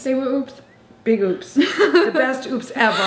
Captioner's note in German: lacht